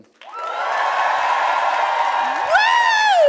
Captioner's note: audience cheers and claps